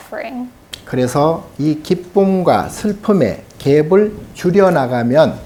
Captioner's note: speaking Korean